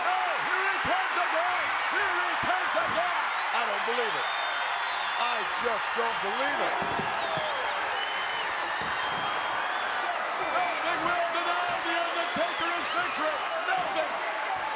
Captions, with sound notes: Oh, here he comes again. Here he comes again. I don't believe it. I just don't believe it. (crowd cheers) Nothing will deny the Undertaker his victory. Nothing!